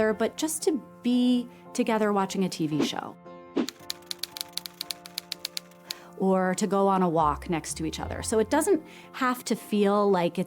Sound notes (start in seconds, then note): 3.6 light music; 3.6 typewriter clacking